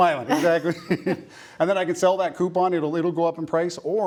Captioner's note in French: rires